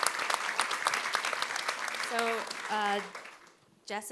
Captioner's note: audience applauding